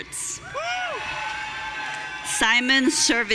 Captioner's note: audience cheering